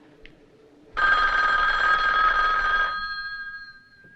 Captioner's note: phone rings